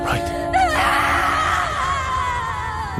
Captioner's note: screaming